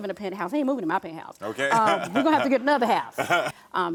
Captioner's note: laughing